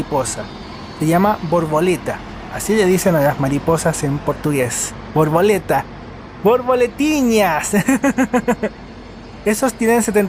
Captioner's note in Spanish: risas